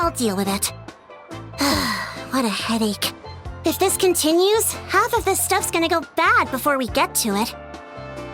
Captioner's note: sigh